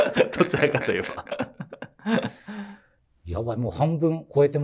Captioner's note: laughing